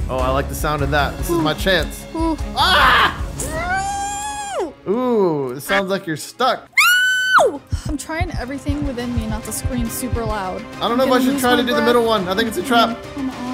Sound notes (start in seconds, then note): 4.0 groaning